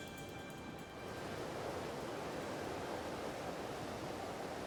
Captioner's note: waves lapping